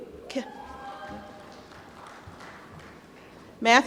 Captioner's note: applause